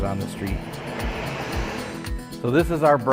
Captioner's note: salt truck vrooms